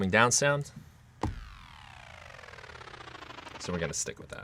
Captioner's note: electronic whirring